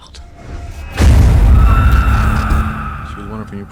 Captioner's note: screaming